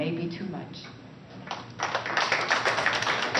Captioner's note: applause